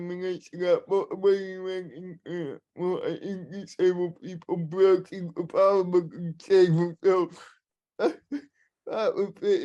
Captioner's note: laughter